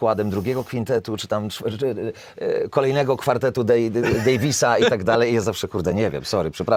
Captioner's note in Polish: śmiech